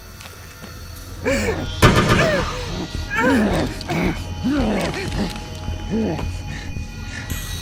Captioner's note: gasps; zombie grunting